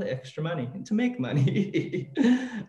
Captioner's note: laughs